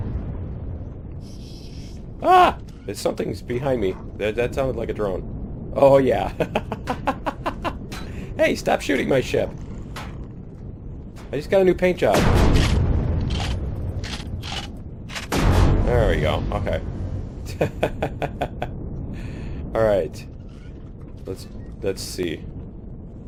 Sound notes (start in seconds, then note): 6.4 laughs; 14.5 explosion